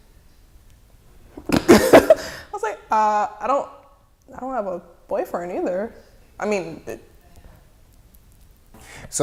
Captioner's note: laughing